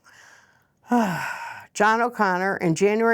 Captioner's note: sighs